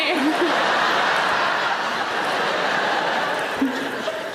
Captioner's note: audience laughing